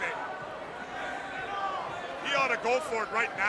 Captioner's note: crowd chatter